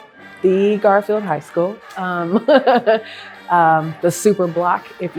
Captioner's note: laughs